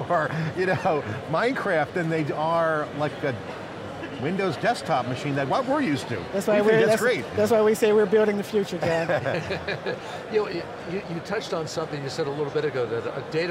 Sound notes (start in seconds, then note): 0.1 laughing; 8.8 men laughing